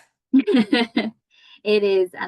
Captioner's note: laughing